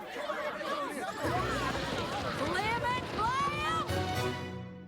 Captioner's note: clamoring